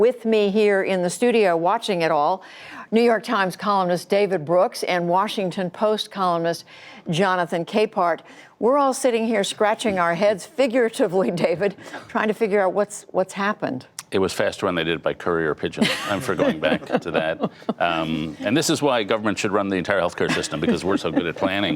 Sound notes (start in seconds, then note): 15.8 laughter